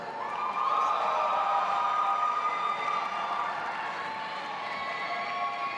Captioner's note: audience applauding and cheering